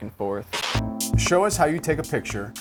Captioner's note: static